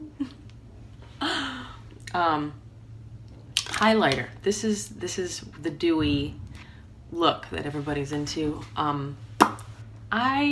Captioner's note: chuckle